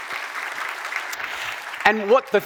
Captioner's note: audience applauding